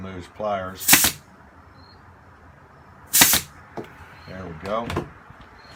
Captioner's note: nailer operating